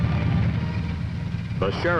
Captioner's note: tank engine rumbling